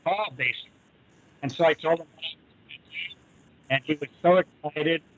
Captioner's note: static draws sound